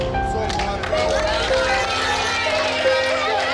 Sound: applauding

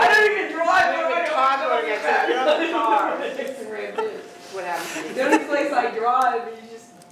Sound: laugh

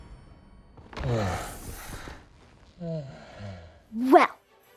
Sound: sighs deeply

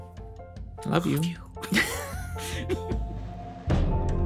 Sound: both chuckle

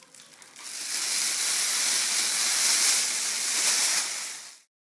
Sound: foil rustling

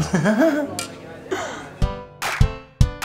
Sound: giggles and they tap glasses in a toast; intro music

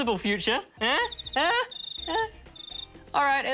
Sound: crickets chirp

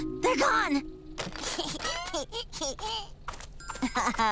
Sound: laughing

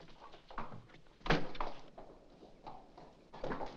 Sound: door shuts; hooves trot away

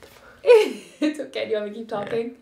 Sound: chuckles

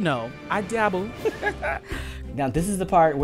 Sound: laughter

